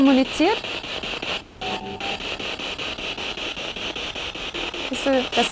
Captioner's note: noise of the spiritbox in the background